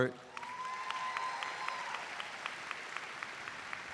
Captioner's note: audience applauds